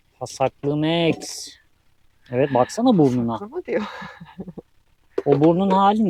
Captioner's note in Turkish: kahkaha